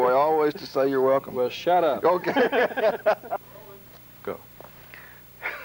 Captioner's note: laughter